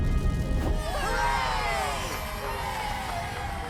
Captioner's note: cheering